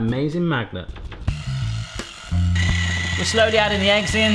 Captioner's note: whisk whirring